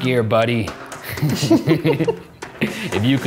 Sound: laughing

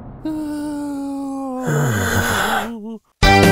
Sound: Joe groans; jaunty country music

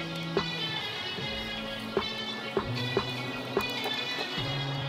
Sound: cars zooming

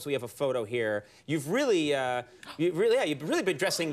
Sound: Emma gasps

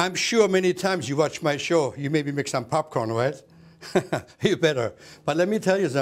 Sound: laughs

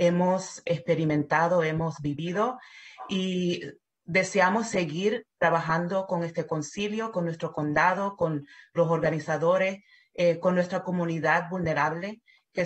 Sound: spanish

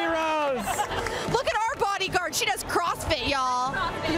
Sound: cheering

